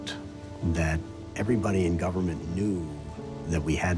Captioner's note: none